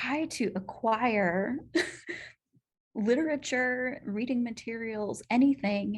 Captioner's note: laughter